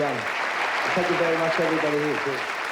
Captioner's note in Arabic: تصفيق الجمهور